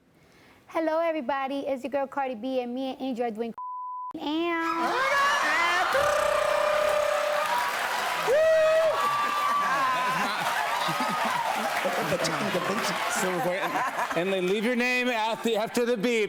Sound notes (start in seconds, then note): 4.3 laughter; 6.3 cheers and applause